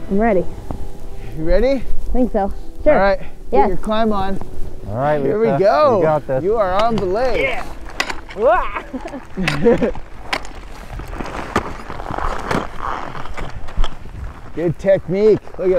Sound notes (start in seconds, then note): 8.3 laughing; 10.9 climbing sounds